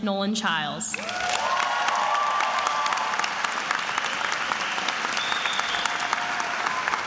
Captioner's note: attendees applauding and cheering